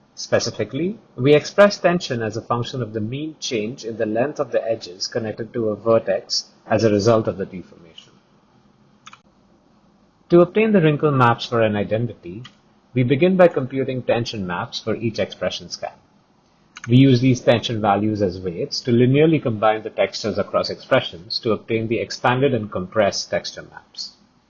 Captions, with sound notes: Specifically, we express tension as a function of the mean change in the length of the edges connected to a vertex as a result of the deformation. To obtain the wrinkle maps for an identity [click, click], we begin by computing tension maps for each expression scan. [click] We use these tension values as weights to linearly combine the textures across expressions to obtain the expanded and compressed texture maps.